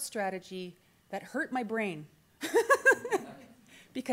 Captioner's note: laughs